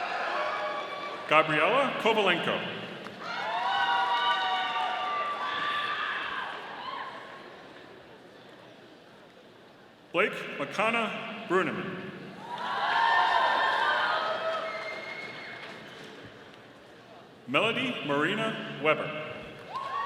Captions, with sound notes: Gabriela Kovalenko. (audience applauding) Blake Makana Bruneman. (audience applauding) Melody Maurina Weber.